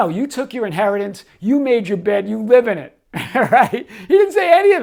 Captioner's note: laughs